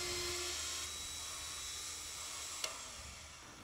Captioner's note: drill humming